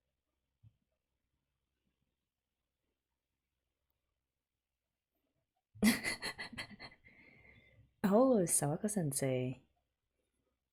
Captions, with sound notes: [laughs] Oh! Sawako Sensei.